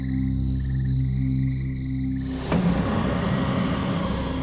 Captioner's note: growling